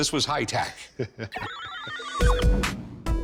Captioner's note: chuckles